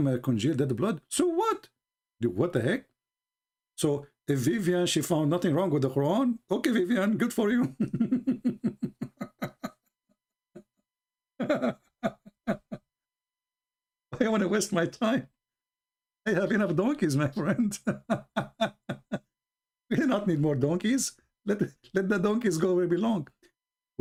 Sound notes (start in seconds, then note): 7.6 Ketawa